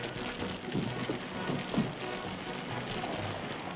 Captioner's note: fire crackling